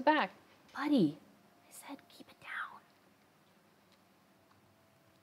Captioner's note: whispered